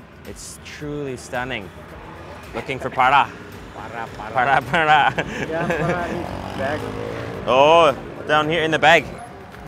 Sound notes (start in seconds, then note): 3.7 chuckles